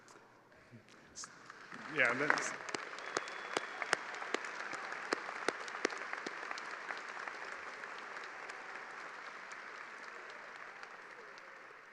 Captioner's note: cheers and applause